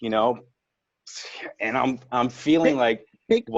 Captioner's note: sighing